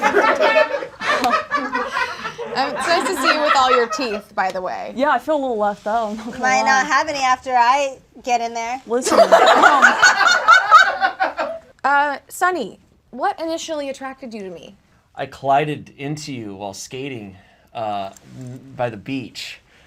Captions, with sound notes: (audience laughs) - I'm, it's nice to see you with all your teeth, by the way. - Yeah. I feel a little left out though, not going to lie. - Might not have any after I get in there. - Listen. (audience laughs) - Sonny, what initially attracted you to me? - I collided into you while skating by the beach.